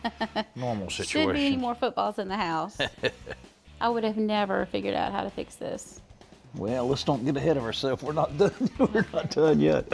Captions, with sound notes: normal situations. Shouldn't be any more footballs in the house. [ Chuckles ] I would have never figured out how to fix this. Well, let's not get ahead of ourself. We're not done yet.